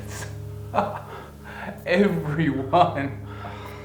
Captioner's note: laughs